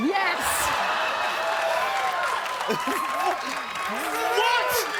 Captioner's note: cheers